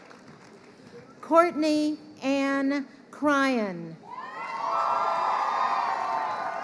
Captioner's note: crowd cheering